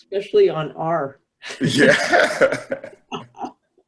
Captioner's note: laughter